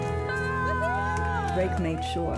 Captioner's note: group cheering; melancholic music